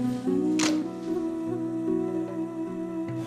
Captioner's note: camera clicks